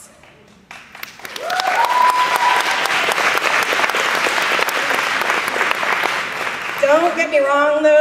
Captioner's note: applause